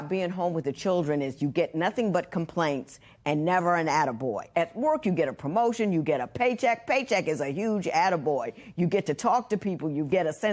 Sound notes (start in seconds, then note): none